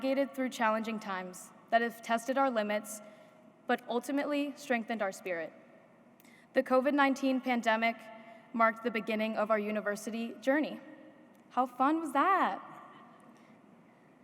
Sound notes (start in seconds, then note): none